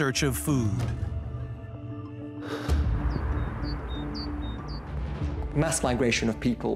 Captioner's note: gentle suspenseful music; man sighs